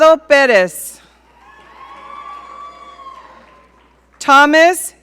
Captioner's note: audience cheering